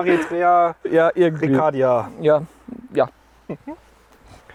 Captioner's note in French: Rires